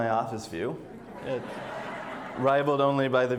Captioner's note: audience laughs